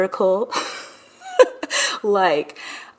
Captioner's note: laughing